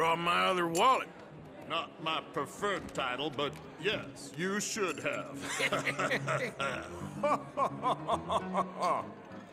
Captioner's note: the others at the table laugh